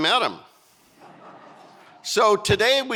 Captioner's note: audience laughing